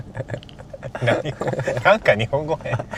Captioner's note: laughs